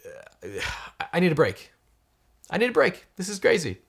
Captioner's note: sighing